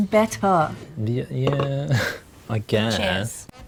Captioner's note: chuckles